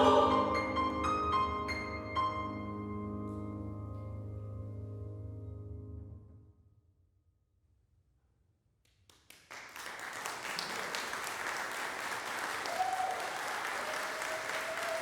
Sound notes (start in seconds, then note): 6.6 silence; 9.0 applause breaks out; 12.7 applause continues, punctuated with cheers throughout